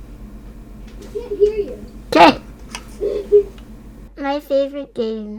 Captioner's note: laughs